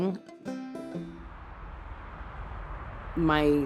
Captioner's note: traffic rushes in the distance